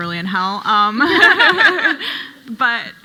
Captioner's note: panel laughing